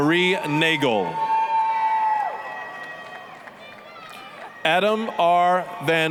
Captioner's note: applause, cheering